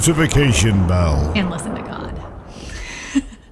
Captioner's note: laughs